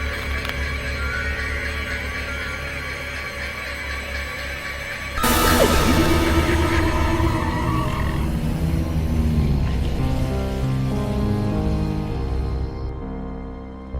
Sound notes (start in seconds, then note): 5.4 dramatic music; 5.4 tires screeching; 10.7 suspenseful music